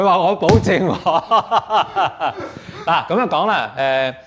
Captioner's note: laughs